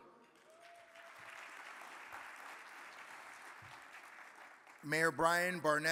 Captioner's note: audience applauding